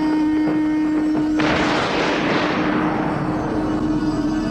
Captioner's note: thunder